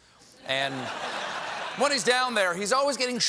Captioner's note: laughter